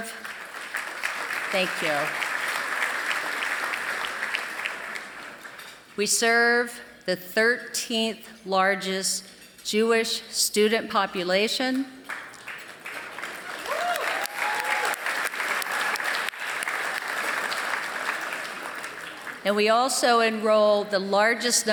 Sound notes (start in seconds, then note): 0.0 applause; 12.0 applause